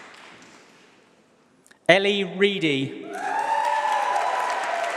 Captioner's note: applause